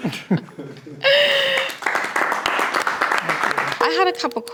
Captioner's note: people clapping